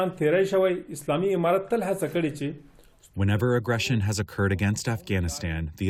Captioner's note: through translator